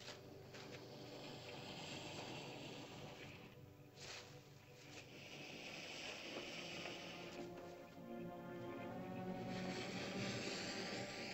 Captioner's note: ominous music; lizard makes soft hissing sound